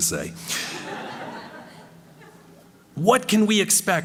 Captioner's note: laughter